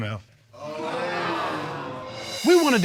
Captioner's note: audience exclaims